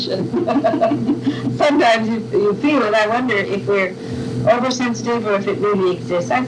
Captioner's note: laughter